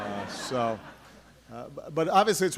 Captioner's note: laughter